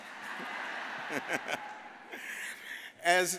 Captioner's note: laughs